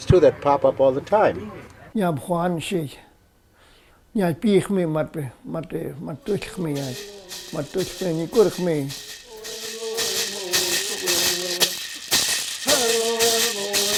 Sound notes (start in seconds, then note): 1.8 speaking in foreign language; 9.9 singing in foreign language